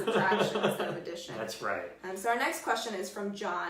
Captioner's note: laughs